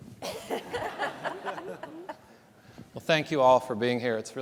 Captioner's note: panelists laughing; audience laughing